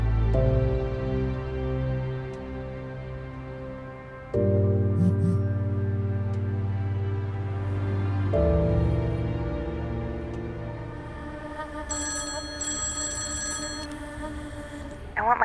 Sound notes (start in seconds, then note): 5.0 cellphone vibrating; 7.4 gentle music; 11.9 cellphone ringing